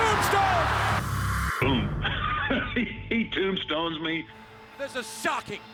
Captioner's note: laugh